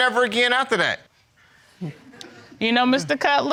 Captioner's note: audience chuckles